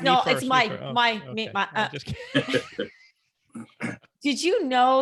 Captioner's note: everyone laughs